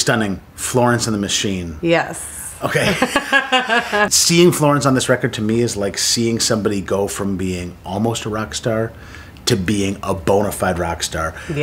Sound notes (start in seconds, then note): 2.6 laughter